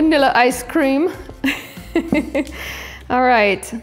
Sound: laughing loudly

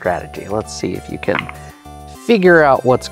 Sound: dice clattering

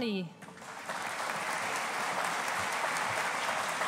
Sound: audience applauding

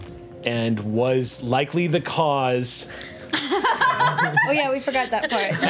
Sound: group laughs

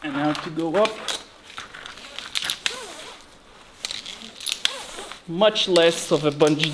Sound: rope rasping

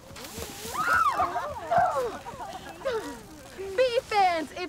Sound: screams and laughter

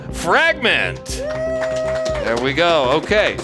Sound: audience applauding

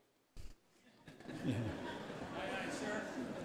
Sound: audience laughter

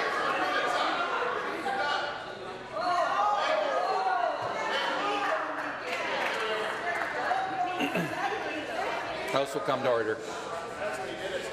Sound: woman shouting

